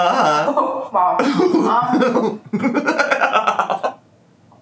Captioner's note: laughs